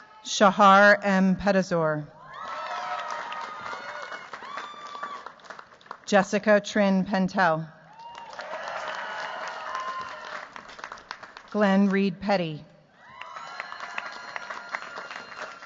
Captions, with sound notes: Shahar M. Pedesor. Jessica Trine Pentel. [CHEERS, APPLAUSE] Glenn Reed Petit. [CHEERS, APPLAUSE]